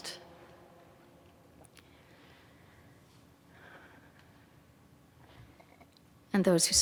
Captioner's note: silence